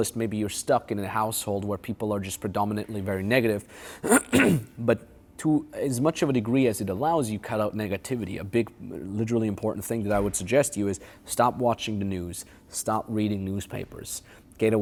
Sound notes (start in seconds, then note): 4.0 clears throat